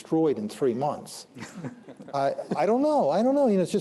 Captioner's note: laughter